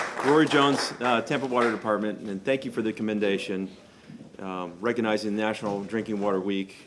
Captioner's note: applause